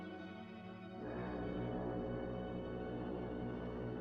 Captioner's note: foghorn Blows